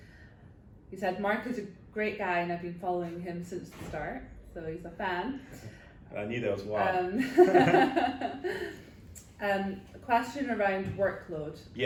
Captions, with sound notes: He said, "Mark is a great guy "and I've been following him since the start." So he's a fan. - (chuckles) I knew there was one. (laughing) - Question around workload,